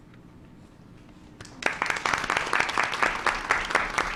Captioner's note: applause